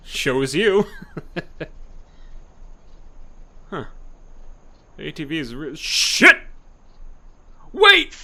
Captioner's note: laugh